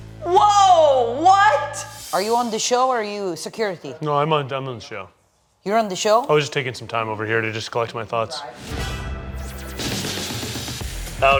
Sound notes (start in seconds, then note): 4.3 stammering; 8.7 bright rhythmic music